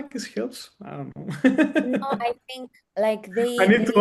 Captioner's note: laughs; laughs